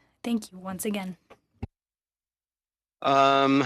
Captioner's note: speaking French